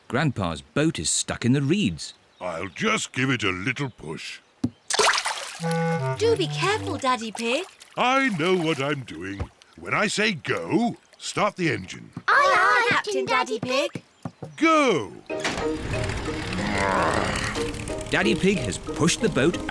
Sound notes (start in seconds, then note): 15.3 engine starts